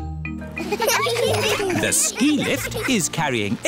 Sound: laughter

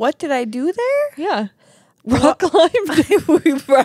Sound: laugh

